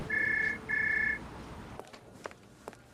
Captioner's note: phone rings